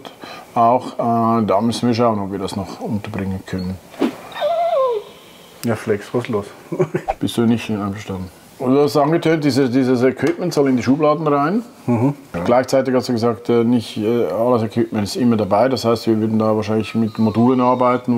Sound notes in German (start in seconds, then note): 4.3 lacht; 4.3 howls